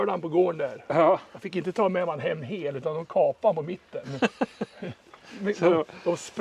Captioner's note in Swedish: skratt